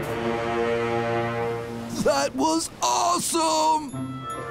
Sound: none

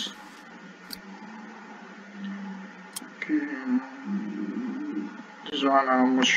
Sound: click

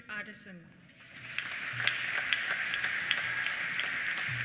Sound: applause

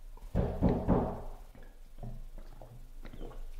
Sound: knocking

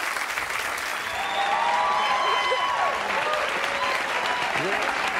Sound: audience cheering and applauding

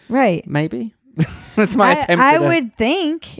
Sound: laughs loudly

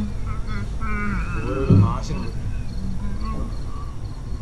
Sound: cursing

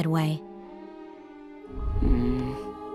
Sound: groaning

